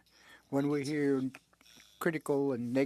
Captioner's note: speaking French